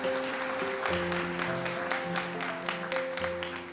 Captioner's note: applause